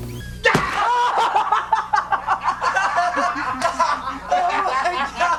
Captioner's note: shouts in attack language; laughs